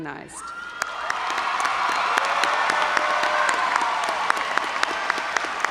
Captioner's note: audience cheering and applauding